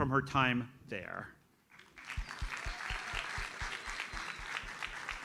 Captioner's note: audience applauds